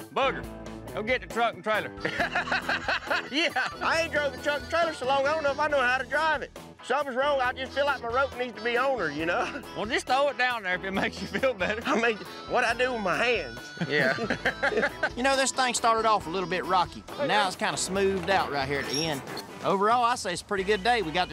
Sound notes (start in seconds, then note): 13.7 everyone laughs